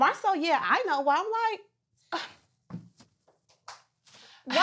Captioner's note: scoffs